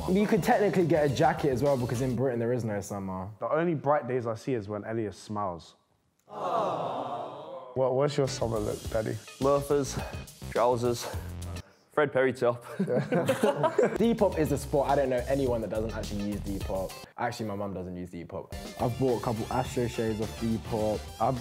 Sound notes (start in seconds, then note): 6.3 audience gushes; 12.6 group laughs